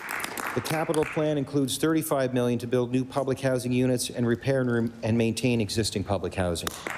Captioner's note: applause